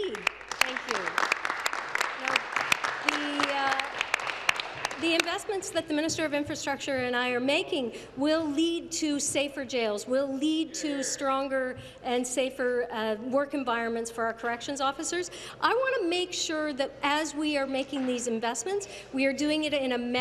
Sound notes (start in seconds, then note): 4.8 applause